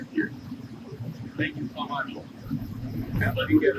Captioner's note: radio